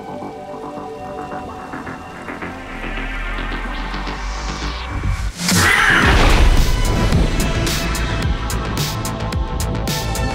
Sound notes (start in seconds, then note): 0.2 ominous electronic music; 5.6 cat screeching; 6.5 dynamic electronic music